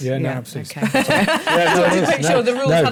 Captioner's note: laughter